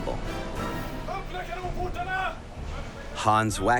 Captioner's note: speaking Swedish